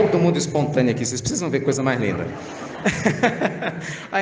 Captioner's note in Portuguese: risadas